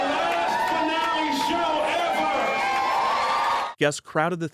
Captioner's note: crowd cheers